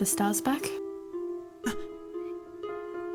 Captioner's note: Scrappy soft gasp